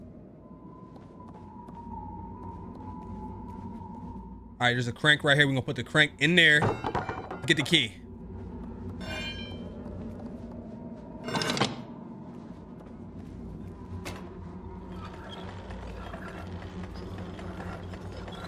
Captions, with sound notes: All right, there's a crank right here. We're gonna put the crank in there. Get the key. (metals clanging)